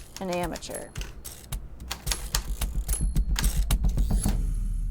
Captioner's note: keys clicking